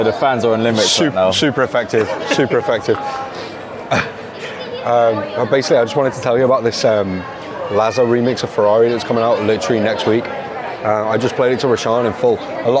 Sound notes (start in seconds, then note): 4.6 chuckles